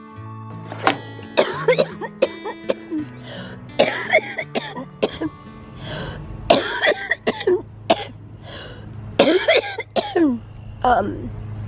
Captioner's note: coughing